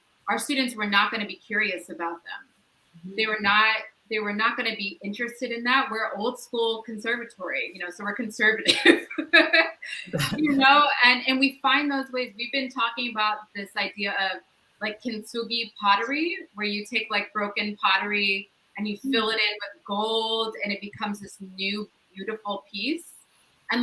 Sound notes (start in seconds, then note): 10.0 all laugh